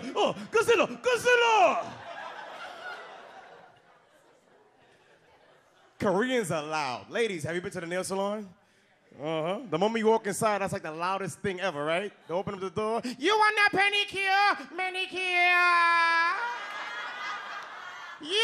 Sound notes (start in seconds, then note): 2.4 audience laughs; 16.2 audience laughs